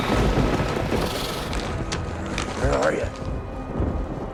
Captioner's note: thunder booms